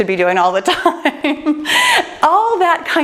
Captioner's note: laughs